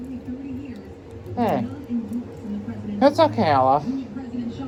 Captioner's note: slurred